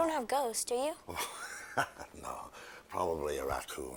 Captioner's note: chuckling